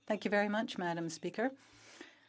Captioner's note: speaking French